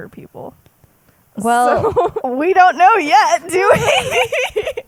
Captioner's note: laughs